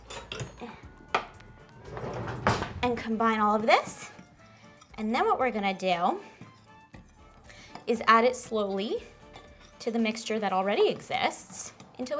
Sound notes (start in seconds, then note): 1.7 drawer banging